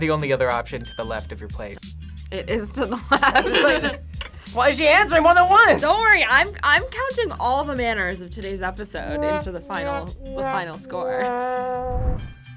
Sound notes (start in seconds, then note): 2.7 laughs; 9.0 sad trombone music